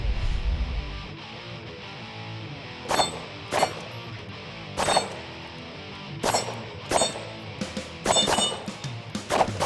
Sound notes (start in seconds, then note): 0.3 rock music; 2.8 gunshots